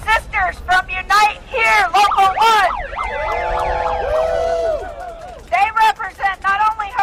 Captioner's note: applause